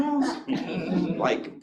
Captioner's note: board members chuckling